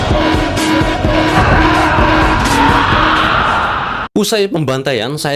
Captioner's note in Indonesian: berteriak